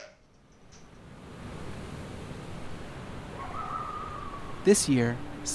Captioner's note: wind whooshing